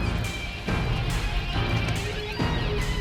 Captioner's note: none